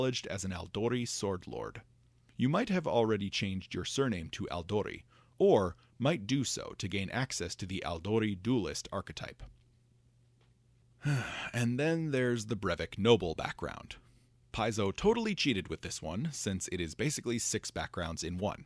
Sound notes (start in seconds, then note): 11.0 sigh